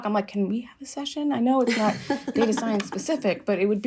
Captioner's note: laughter